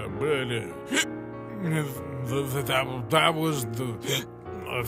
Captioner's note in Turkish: hıçkırır; hıçkırır yine